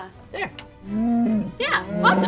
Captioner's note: Chewbacca sounds